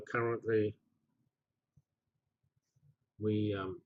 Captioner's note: pause